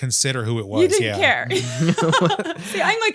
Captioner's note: laughs